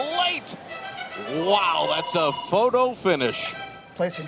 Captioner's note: telephone rings